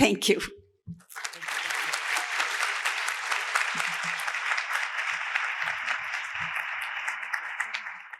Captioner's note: applause